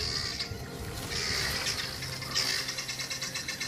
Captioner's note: squawking continues